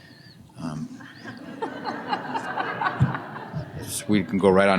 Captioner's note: laughter